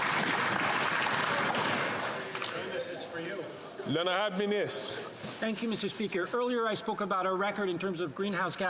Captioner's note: some Applause